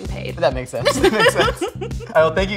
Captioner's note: both laughing